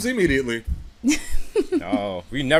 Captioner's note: chuckles